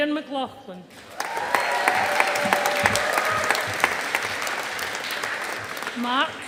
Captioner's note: audience applauding